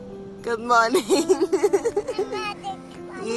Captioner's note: laughs